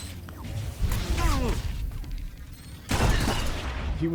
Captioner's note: gunshots